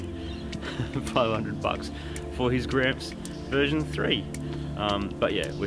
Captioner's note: laughs